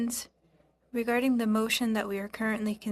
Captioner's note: speaking French